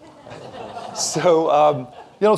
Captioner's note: audience laughs